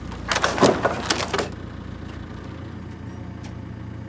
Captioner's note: wood crashing; engine rumbling